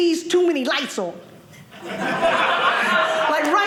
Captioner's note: audience laughing